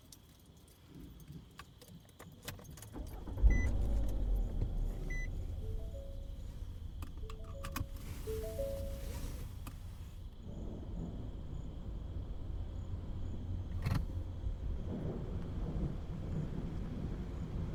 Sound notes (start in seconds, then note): 0.2 engine revs; 0.2 keys rattling; 2.9 car beeping; 11.9 crickets chirping; 11.9 thunder rumbling